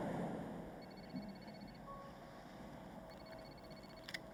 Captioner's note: phone ringing